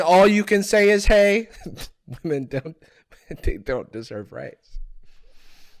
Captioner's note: chuckling